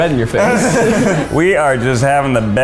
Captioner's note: laughing